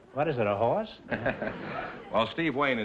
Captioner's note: audience laughter